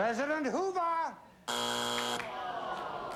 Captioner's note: buzzer